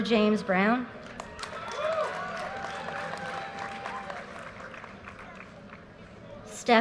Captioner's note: audience cheers and applause